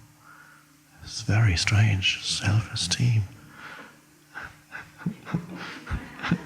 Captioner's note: laughs